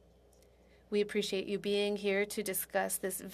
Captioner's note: speaking French